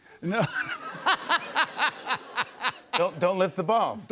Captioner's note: laughter